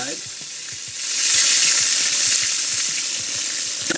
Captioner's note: water splashing